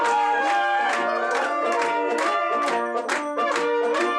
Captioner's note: cheering